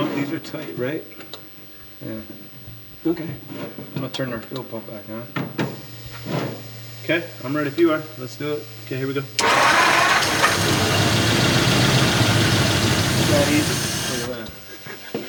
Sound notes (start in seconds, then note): 9.4 engine purring; 11.3 engine rumbling